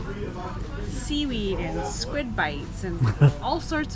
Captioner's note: laughs